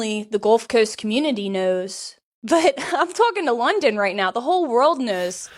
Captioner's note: chuckles